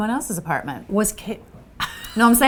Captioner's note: laughs